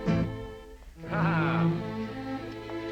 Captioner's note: laughs